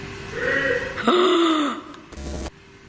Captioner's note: male shouting